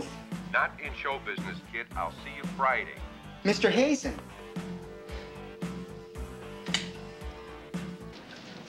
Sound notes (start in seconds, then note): 0.5 on phone; 4.5 dial tone